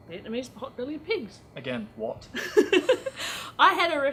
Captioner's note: laughs